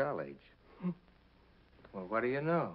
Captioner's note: Nick chuckles